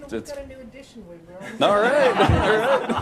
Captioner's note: laughter